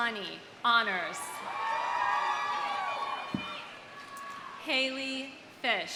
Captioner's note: audience cheering; audience applauding